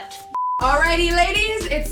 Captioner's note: beep